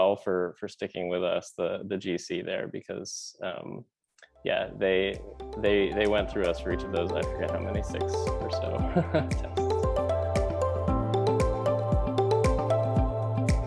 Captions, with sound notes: for sticking with us, the GC there, because yeah, they, they, they went through us for each of those. I forget how many, six or so. (laughs) (bright music)